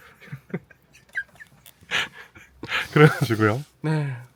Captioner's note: laughing